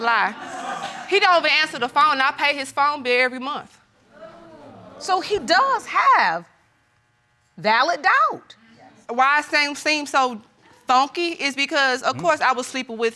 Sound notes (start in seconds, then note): 4.2 audience exclaims